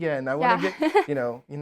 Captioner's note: laughs